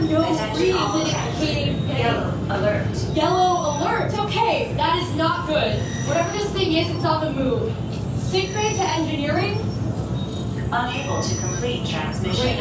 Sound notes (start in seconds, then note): 9.5 overlapping, chaotic alarms